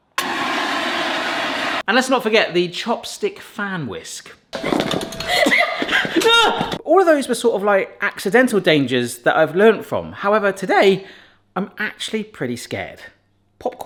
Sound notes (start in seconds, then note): 0.0 fire extinguisher roaring; 6.2 exclaiming